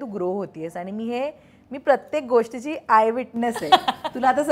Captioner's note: Chuckles